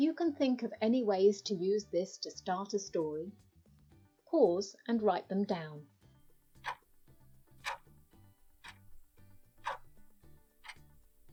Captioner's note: clock ticking